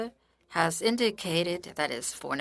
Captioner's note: speaking French